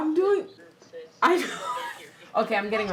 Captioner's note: laughing